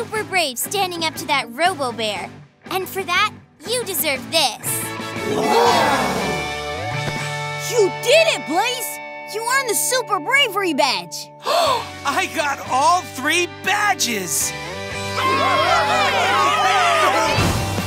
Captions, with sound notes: standing up to that robo bear, and for that you deserve this. Whoa! You did it Blaze, you won the super bravery badge! [gasps] I got all three badges! [cheering]